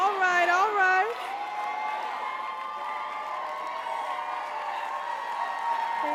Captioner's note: crowd cheering